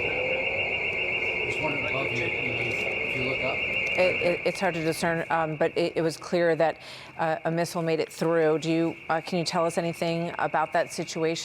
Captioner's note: sirens sounding